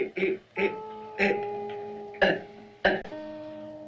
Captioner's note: Victoria sobbing